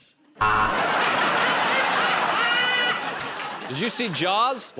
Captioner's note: buzzer